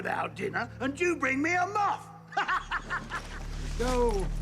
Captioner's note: laughs